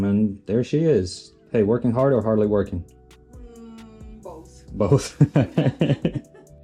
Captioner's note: laughter